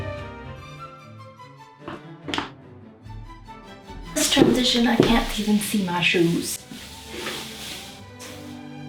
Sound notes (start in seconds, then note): 6.7 skirt rustling